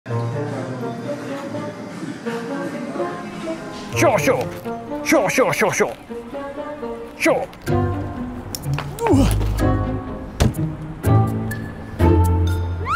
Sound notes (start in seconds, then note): 0.8 curious music; 9.0 grunts